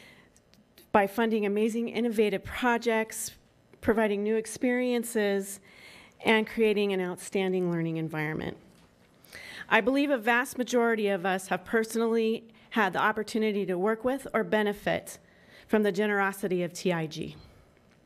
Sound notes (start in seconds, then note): none